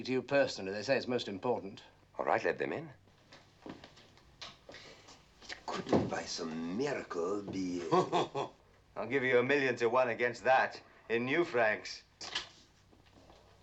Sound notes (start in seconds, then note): 7.7 chuckling; 11.8 door opening